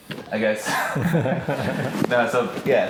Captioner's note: laughing